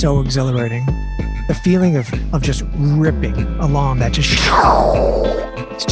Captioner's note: psssshew